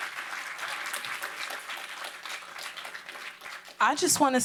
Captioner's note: applause